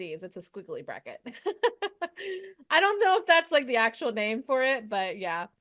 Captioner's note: laughs